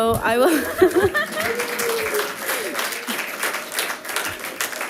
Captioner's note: audience applauding